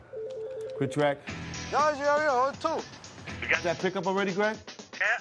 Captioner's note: telephone rings